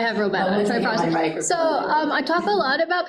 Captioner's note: group talking